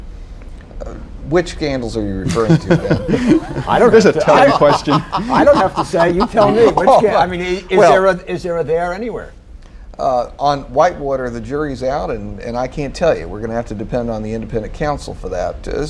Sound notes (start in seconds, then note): 2.2 laughter